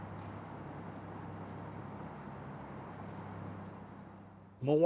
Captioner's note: wind blowing